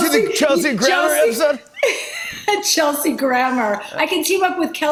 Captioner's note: laughs